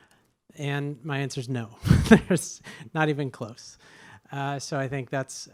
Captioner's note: chuckles